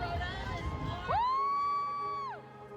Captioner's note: laughs; cheering